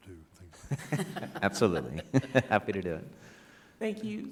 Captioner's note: everyone laughing